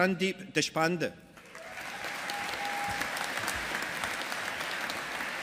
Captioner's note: audience applauding